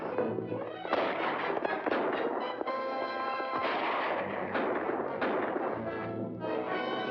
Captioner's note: gunshots